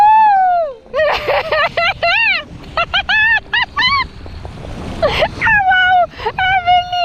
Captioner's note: laugh